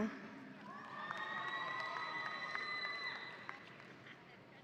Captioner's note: audience applauding